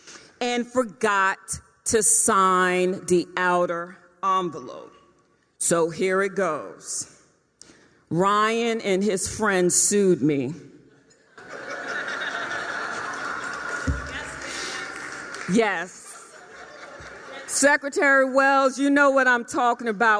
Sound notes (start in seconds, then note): 10.9 laughter